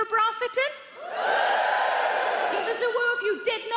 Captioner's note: crowd whoos